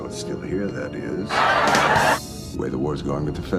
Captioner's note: canned laughter